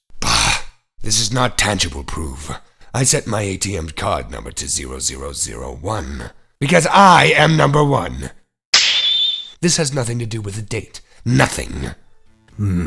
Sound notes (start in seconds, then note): 8.7 snap!